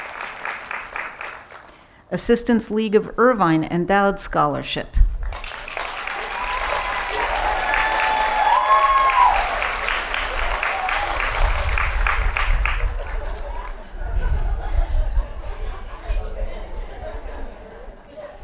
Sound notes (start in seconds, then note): 0.0 applause; 5.2 applause; 13.3 laughing